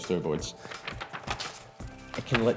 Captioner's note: page turning